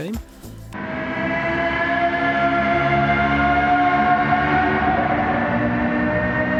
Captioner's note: godly v10 noises